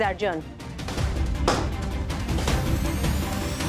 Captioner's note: thwacking